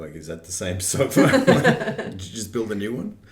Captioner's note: group laughing